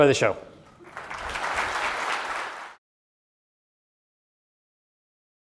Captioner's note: audience applauds